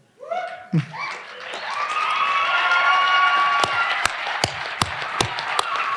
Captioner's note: audience applauding and cheering